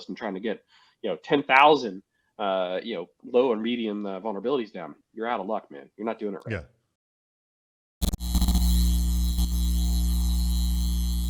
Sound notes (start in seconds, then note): 8.0 buzzing noise